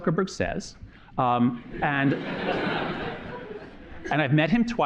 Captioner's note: laughter